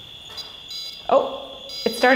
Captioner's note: whining